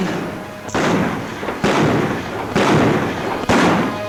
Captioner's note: guns bang